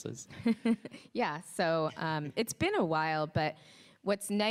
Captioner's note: laughs